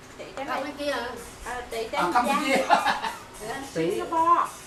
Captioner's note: laugh